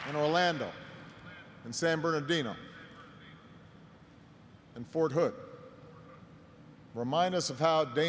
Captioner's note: applause